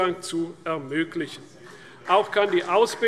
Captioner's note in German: Beifall CDU